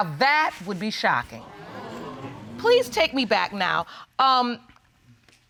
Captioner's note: audience exclaiming